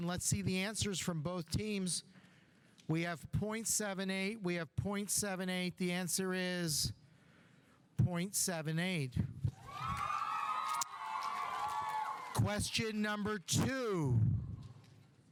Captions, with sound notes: Let's see the answers from both teams. We have .78, we have .78. The answer is .78. (audience applauding) (audience cheering) Question number two.